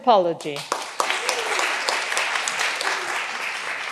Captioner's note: all applauding